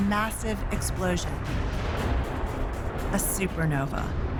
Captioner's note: explosion roars